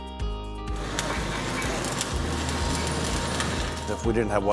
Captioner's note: welder crackling